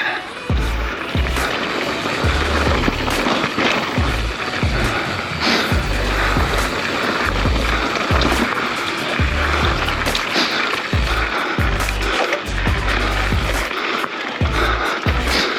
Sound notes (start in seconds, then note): 2.2 bike wheel skirts